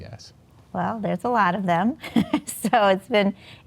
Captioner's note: laughs